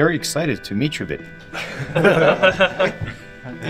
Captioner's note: laughs